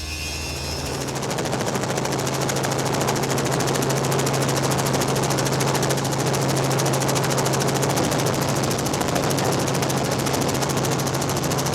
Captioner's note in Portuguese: Hélice de helicóptero